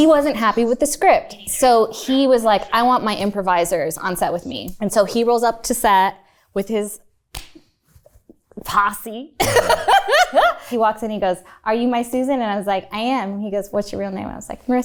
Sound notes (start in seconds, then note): 9.4 laughs